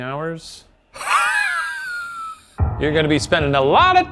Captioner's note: laughs